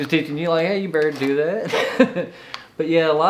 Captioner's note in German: lacht